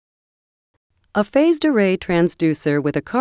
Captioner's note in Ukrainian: Голос за кадром